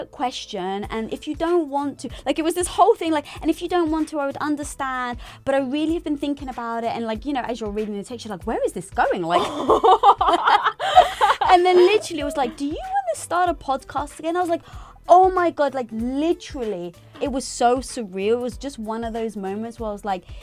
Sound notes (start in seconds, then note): 9.4 laughs loudly